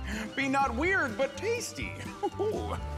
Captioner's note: chuckles